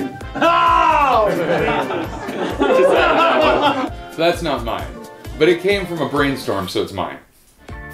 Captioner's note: groans and laughter